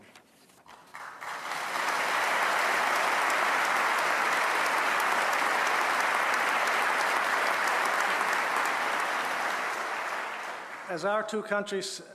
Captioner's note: applause